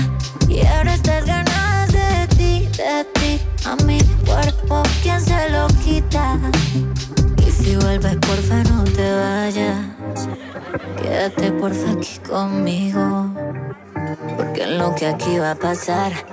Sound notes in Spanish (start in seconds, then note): 9.2 conversaciones y risas